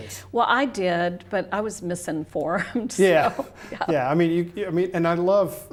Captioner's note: laughs